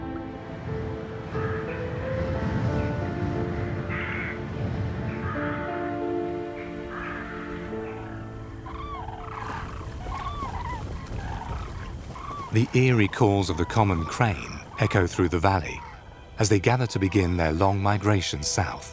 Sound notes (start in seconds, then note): 8.6 birds squawking